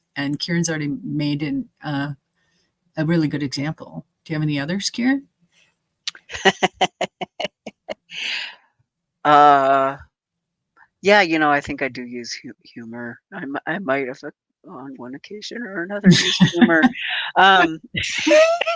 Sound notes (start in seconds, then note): 6.3 chuckling; 16.0 chuckling; 17.6 both chuckling